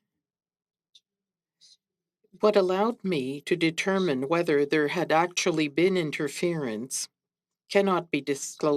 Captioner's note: speaking French